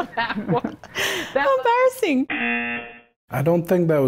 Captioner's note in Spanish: risas; zumbador